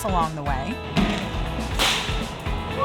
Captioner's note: glass falling, breaking